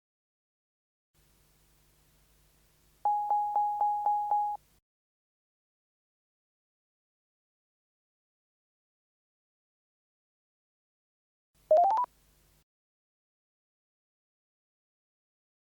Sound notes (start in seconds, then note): 3.1 tone beeping; 11.7 tone beeps